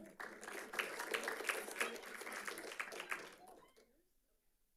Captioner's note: audience clapping